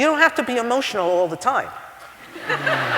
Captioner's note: laughter